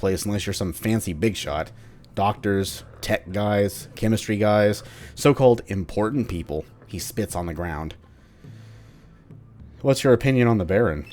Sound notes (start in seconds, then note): 4.8 he spits on the ground